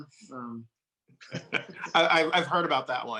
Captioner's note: laughing